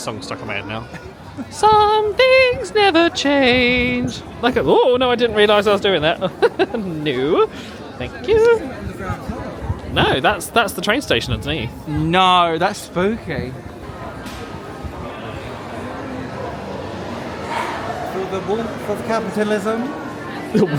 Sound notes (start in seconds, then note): 6.1 chuckles